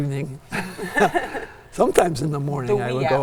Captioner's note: laughs